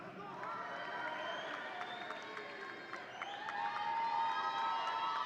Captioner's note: audience cheering